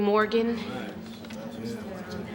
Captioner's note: people murmuring